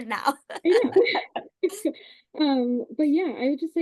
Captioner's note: group chuckles